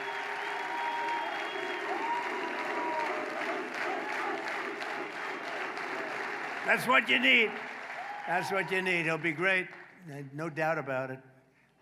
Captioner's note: applause